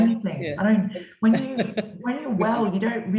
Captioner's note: laughs